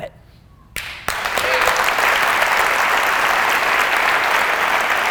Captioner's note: applause